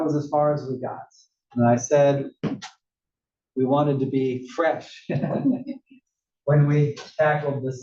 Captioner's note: laugh